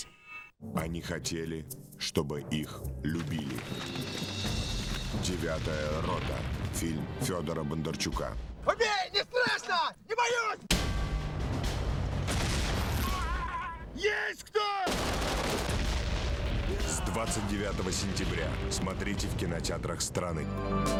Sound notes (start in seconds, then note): 11.3 rhythmic music; 14.8 shots